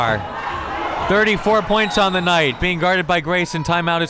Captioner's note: whistle tweeting